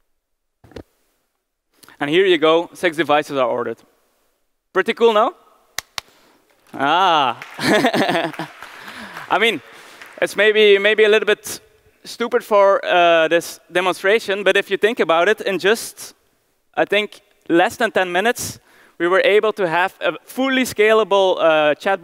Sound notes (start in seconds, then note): 6.4 claps hand; 6.5 applause